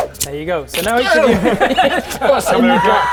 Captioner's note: whoosh; krrch